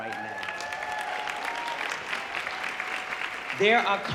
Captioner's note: audience cheering